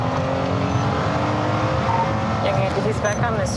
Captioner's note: radio beeps